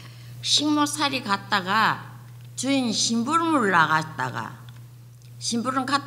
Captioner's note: speaking foreign language